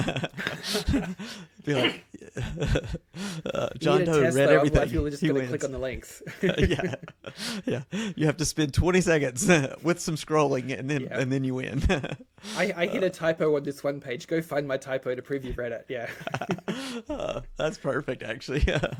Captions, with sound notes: (laughs) Be like, John Doe read everything, he wins. You need a test level, I feel like you're just gonna click on the links. Yeah. Yeah, you have to spend 20 seconds with some scrolling and then you win. I hit a typo on this one page. Go find my typo to preview Reddit, yeah. (laughs) That's perfect actually.